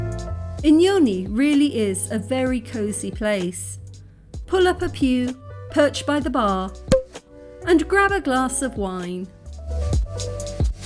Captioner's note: pop; classy music